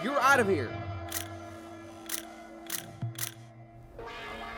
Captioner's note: shutter clicking